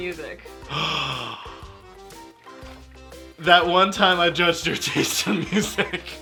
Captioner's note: gasps; laughing